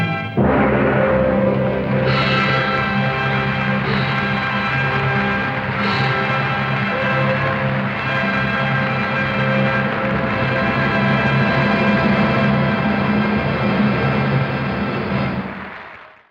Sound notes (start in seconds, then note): 1.5 audience applauding